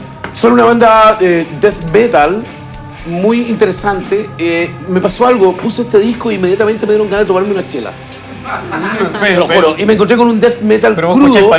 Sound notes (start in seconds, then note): 8.4 laughs